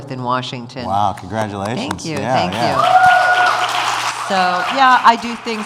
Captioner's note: cheers